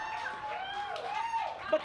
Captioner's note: audience cheers